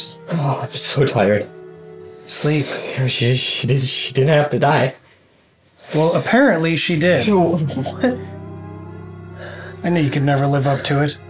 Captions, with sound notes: I'm so... I'm so tired... Sleep. Here. (stammering) She didn't...she didn't have to die. Well, apparently, she did. What?! (eerie music) I know you could never live up to it.